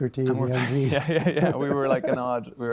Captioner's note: laughter